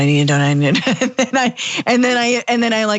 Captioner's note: laugh